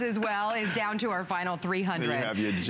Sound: laughter

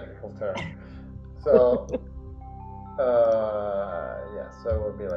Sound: client laughing

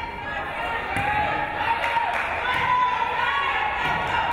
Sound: crowd

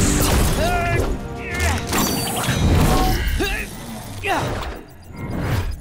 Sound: grunting

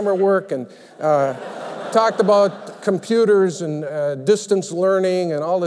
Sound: laughter

